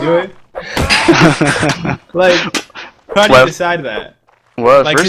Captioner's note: laughs